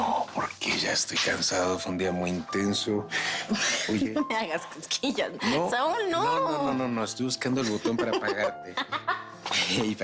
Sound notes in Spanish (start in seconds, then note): 7.6 Riendo